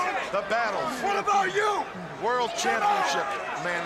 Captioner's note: crowd chatter